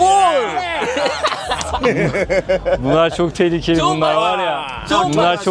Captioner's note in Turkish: kahkaha